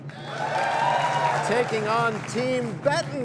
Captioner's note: cheers and applause